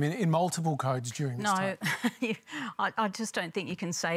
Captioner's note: laughs